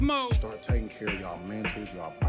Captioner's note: voiceover